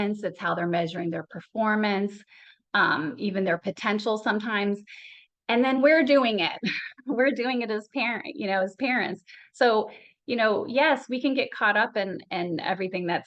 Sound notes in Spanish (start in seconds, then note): 6.6 Risas